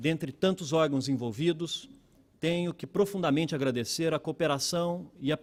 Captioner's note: speaking Portugese